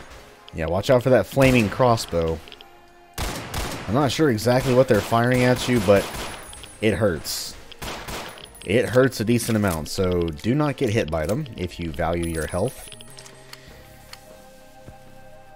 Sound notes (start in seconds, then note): 3.1 Glocking intensifies